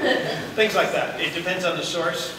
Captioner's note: laughter